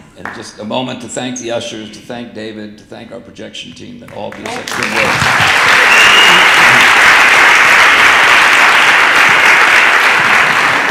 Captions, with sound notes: And just a moment to thank the ushers, to thank David, to thank our projection team that all be such good work. (audience applauding)